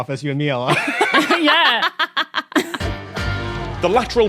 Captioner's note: guests laughing